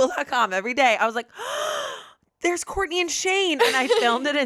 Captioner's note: gasps